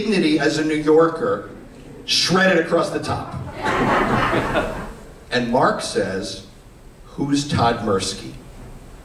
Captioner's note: laughter